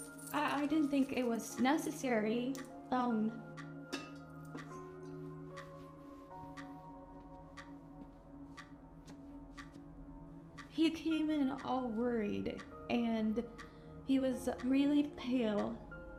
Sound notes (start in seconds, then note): 3.3 clock ticking; 3.3 gentle melodic music